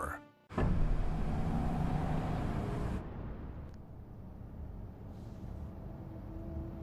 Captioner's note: SFX: Engine sound